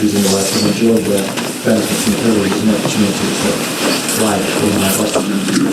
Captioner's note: shuffling drowns out speaker